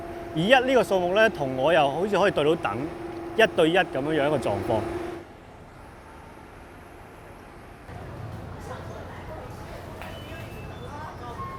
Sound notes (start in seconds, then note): 9.6 ambient beeps, footsteps, and voices in the MTR station